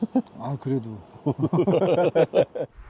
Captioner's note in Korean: 머쓱한 웃음